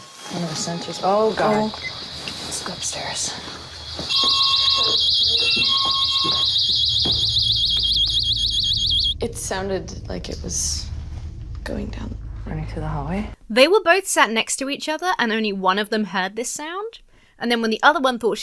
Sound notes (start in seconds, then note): 4.1 alarms going off